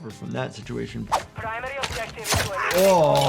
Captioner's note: knife swishes